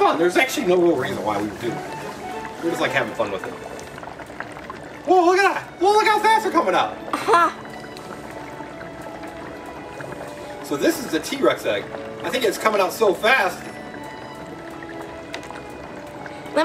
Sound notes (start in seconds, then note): 7.3 soft mellow music; 7.3 water gurgles; 13.6 soft mellow music